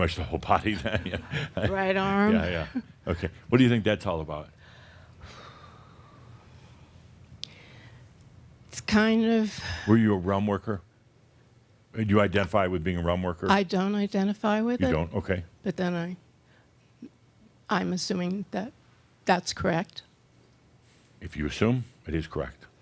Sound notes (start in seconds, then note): 0.7 Adamus chuckles; 5.2 deeply sighs